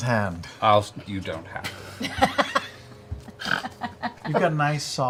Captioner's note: laughs